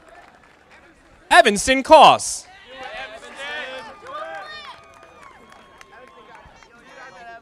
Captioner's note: audience applauding; audience applauding